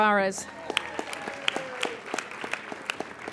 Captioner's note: applauding